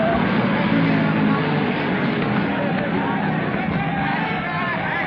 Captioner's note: frantic chattering